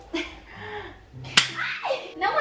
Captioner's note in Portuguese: barulho de palmada